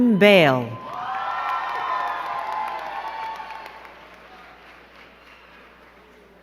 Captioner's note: crowd cheering and clapping